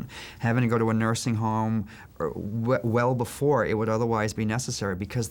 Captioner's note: none